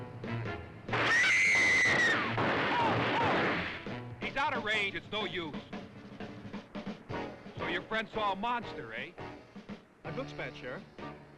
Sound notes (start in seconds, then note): 1.0 Jane screams; 1.9 gun firing